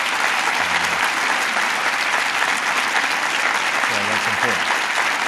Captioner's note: applause